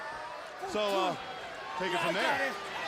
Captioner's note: crowd cheering